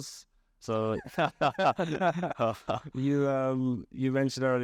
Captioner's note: laughing